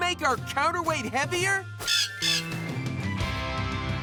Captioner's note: cawing